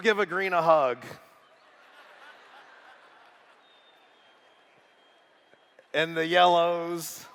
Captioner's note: laughter